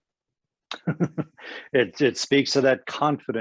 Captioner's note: laughs